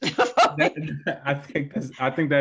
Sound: laughing

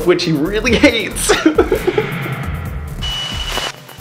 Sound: laughing

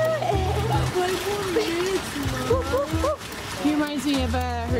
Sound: laughing

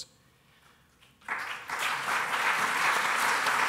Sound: applause

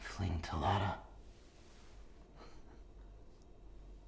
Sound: chuckles softly

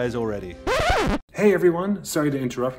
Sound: record scratching

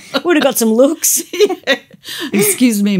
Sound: laughter

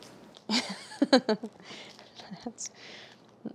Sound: Claire chuckles

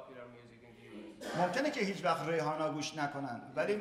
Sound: speaking in farsi

